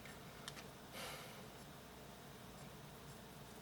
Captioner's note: sighs